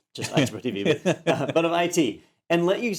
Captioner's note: laugh